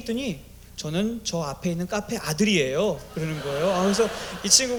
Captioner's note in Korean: 웃음